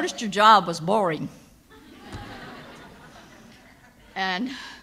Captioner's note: audience laughs